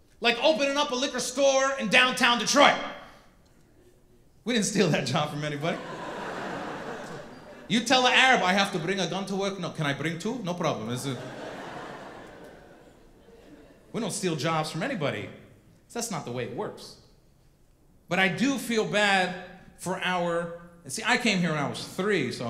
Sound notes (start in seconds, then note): 5.6 audience laughing